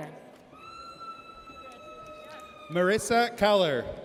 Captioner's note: audience cheers